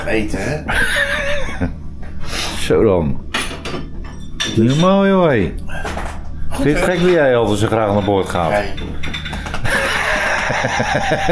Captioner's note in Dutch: Gelach